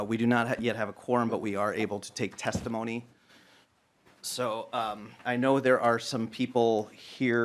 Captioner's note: gavel